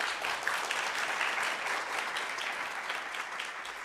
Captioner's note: applause